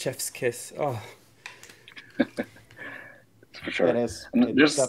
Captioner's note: laughing